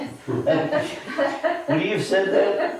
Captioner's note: all laughing